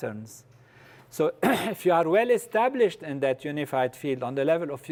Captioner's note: cough